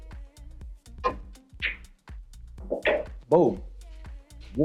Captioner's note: billiard balls clanging